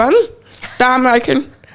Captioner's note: laughing